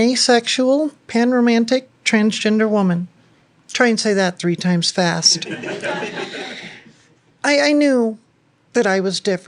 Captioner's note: laughter